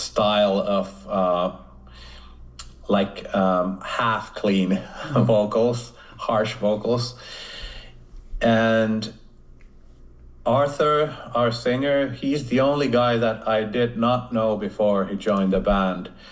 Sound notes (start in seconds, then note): 4.7 chuckles